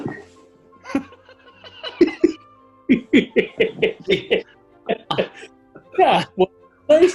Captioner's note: giggling